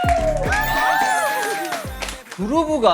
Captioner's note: this spot is fully of applauses